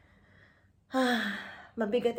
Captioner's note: sigh